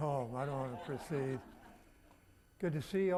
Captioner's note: audience laughing